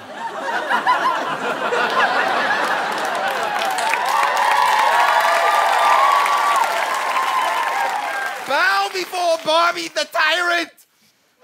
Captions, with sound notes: [audience laughter] [audience cheering] Bow before Bobby the Tyrant!